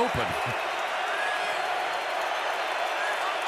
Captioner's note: crowd cheering